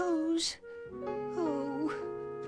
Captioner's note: sighing